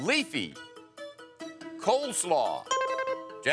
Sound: electronic beeping

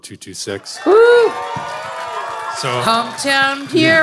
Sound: audience cheering

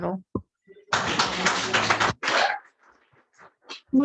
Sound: applause

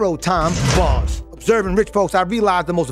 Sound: bars slamming

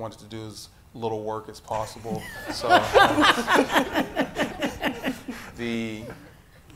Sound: audience laughing

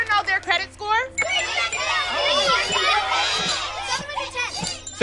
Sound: audience yelling

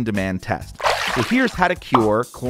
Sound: water splash

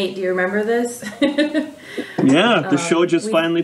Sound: laughs

